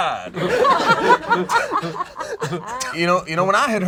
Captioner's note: group laughs